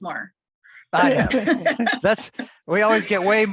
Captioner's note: laughter